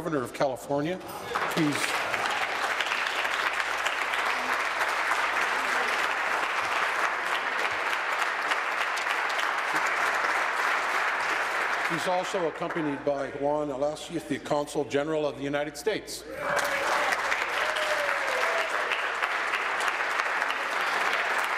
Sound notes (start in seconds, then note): 5.5 applause; 20.4 applause